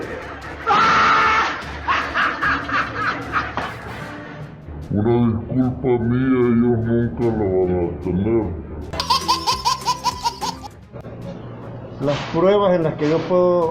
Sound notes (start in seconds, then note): 1.5 laughs; 8.9 laughs